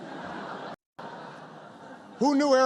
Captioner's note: laughter